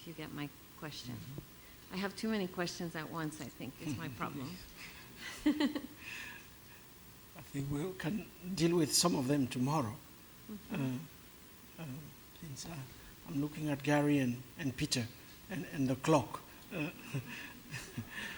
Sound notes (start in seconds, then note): 5.2 laughs